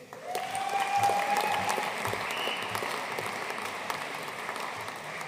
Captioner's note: audience cheering and applauding